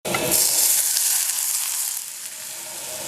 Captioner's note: sizzling